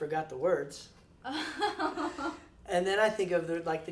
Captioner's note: laughs